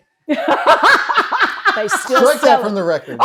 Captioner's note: laughing